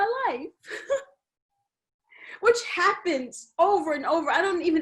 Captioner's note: chuckles